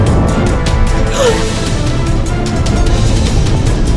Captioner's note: trans gasp